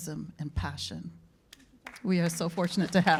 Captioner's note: applause